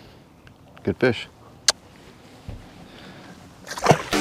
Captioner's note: smooch; water splash